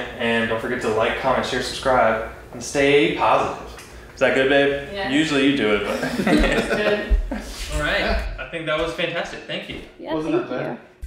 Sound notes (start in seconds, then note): 5.8 laughing